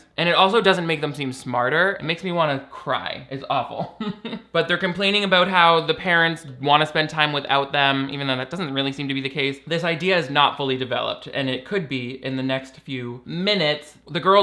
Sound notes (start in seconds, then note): 3.8 laughs